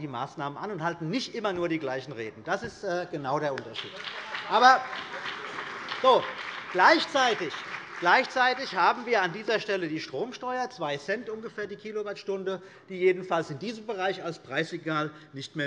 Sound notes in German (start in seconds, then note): 3.5 Beifall BÜNDNIS 90/DIE GRÜNEN und vereinzelt CDU